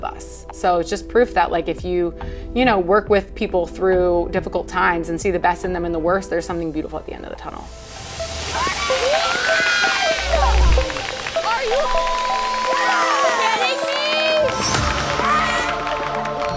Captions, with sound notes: So, it's just proof that like if you, you know, work with people through difficult times and see the best in them in the worst, there's something beautiful at the end of the tunnel. (challengers cheering) - Are you (beep) kidding me?